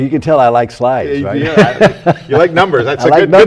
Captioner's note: laughter